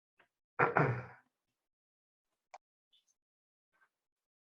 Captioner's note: clears throat